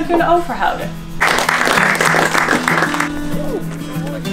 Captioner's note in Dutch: applaus